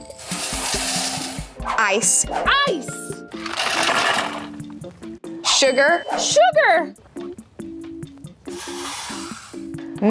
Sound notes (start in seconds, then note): 3.3 ice clammours